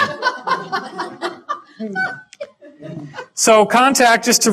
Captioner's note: audience laughter